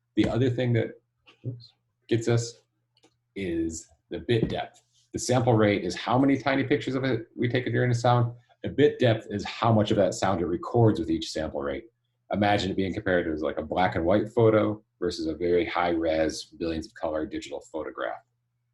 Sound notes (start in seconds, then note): none